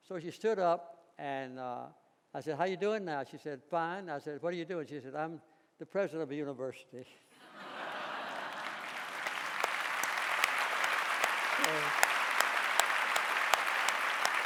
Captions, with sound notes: So she stood up, and I said how're you doing now? And she said, "Fine." I said, what are you doing? She said, "I'm the president of a university." (audience laughing) (audience applauding)